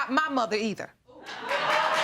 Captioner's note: audience laughing